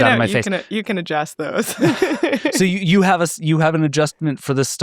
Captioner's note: laughs